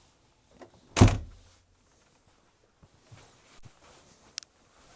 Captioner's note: door shuts